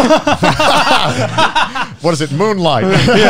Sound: laughing

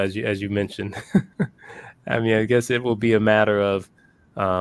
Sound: laugh

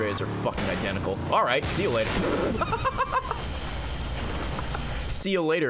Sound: laughs

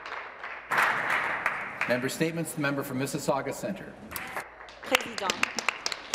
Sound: applause

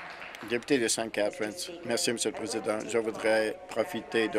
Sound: applause

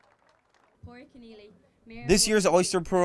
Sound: clapping

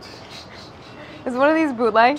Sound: laughing

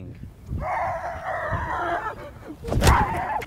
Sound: grunting

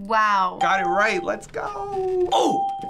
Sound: ding

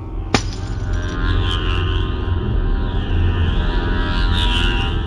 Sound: glass shattering, as strange slow unsettling techno murmur rises

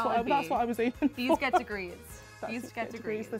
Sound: laughs

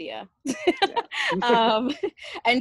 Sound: laughs

